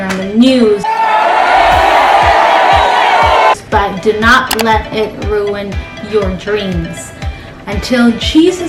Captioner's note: shouting